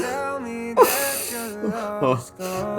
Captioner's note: sniffle